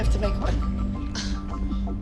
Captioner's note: scoffing